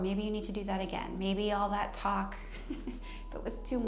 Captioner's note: chuckles